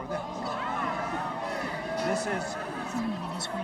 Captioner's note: audience groans